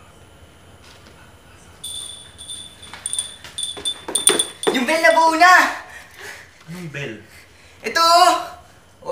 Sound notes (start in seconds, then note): 1.8 bell ringing